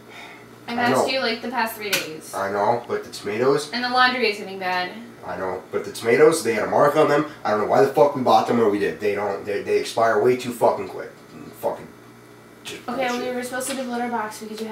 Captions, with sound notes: - [Sighs] I know. -I asked you like the past three days. - I know but the tomatoes... - and the laundry is getting bad. - I know, but the tomatoes they had a mark on them I don't know why the fuck we bought them where we did. They-- [stammers] they expire way too fucking quick. [stammers] fucking [stammers] - Okay, what are you supposed to do with litter box?